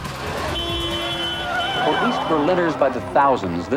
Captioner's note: car horn beeps